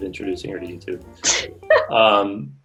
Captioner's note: laughing